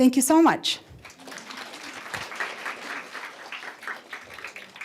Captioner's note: applause